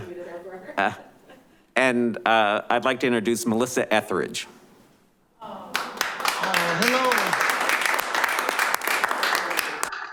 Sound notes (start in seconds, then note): 5.7 clapping